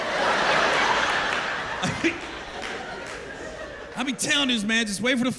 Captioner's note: laughter